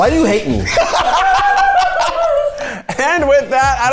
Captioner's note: everyone laughs